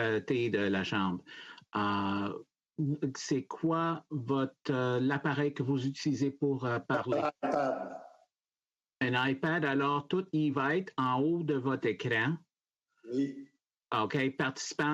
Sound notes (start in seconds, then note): 3.9 speaking French